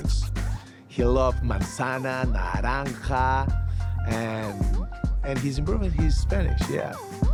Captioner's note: spanish